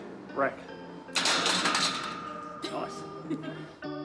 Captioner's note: bar clatters; chuckles